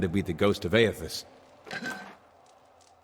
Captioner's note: ceramic scraping; wind